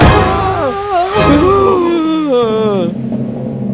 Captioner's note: Thump; Both gasp